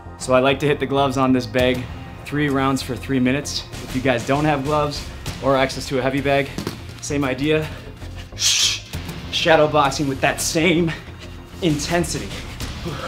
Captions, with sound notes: - So I like to hit the gloves on this bag. Three rounds for three minutes. If you guys don't have gloves, or access to a heavy bag, same idea. (exhaling rapidly) Shadowboxing with that same intensity.